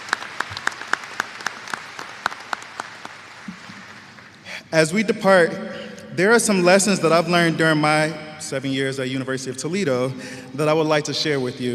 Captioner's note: applause